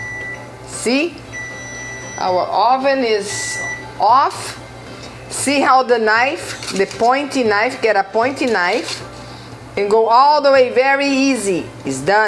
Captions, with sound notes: see. [oven beeping] Our oven is off. See how the knife the pointy knife. Get a pointy knife and go all the way, very easy. It's done.